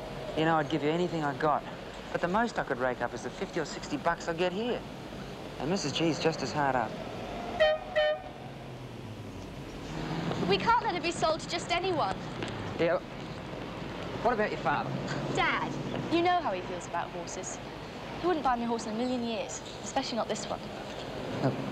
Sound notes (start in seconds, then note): 15.2 scoffs